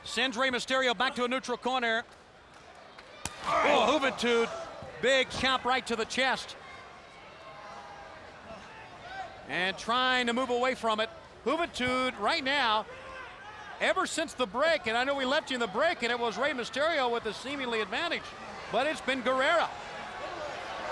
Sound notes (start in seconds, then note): 7.3 crowd chattering